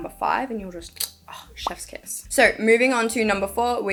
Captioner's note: pop